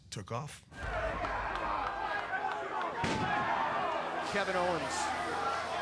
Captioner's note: applause